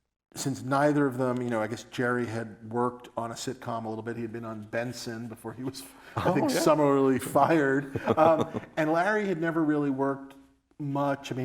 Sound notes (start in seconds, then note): 8.0 both laugh